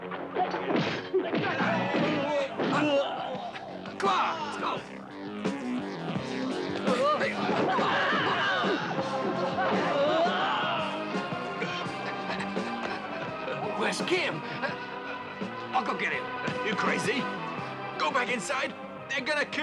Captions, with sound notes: (man grunts) (energetic music) (men grunting) - Where's Kim? - I'll go get him. - You crazy? Go back inside, they're gonna kill you.